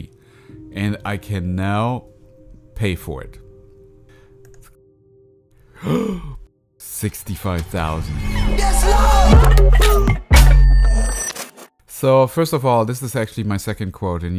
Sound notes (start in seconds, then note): 5.6 gasps; 9.8 funky music